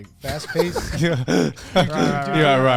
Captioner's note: laughs